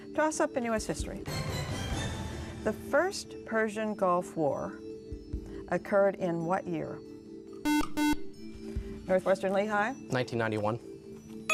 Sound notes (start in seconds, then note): 7.6 beep